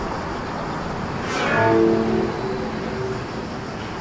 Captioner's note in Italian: suono fantascientifico